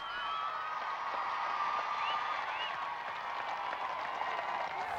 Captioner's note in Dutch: publiek applaudisseert